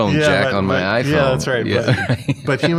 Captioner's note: laughter